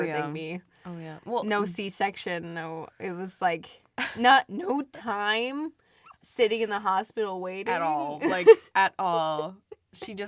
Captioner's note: laughs